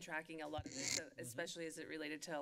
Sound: mic creaks

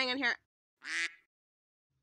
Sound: quack

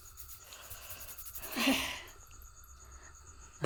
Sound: sigh

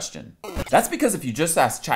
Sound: screen beeps

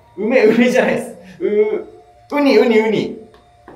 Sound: laughing

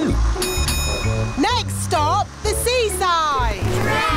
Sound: bell dings

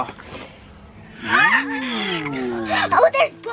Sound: gasps

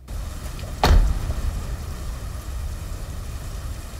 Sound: door slams

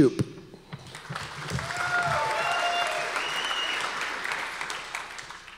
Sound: audience applause

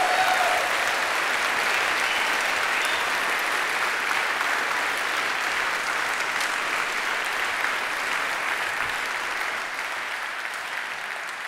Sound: applause

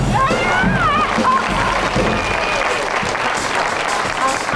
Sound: audience applauds

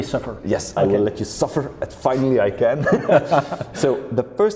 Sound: laughs

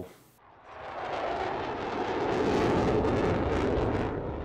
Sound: airplane roars

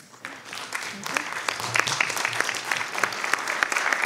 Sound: audience applauding

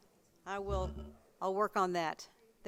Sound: microphone shuffles

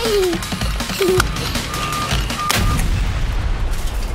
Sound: laughing

